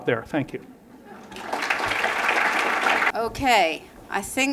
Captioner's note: applause